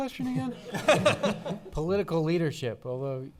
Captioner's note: laughing